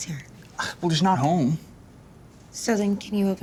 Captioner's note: scoffs